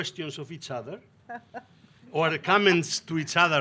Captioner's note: laughing